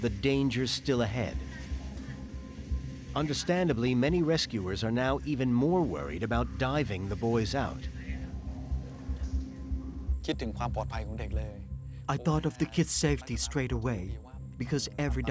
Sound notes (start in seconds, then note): 10.5 speaking Thai